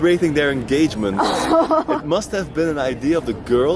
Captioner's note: laughing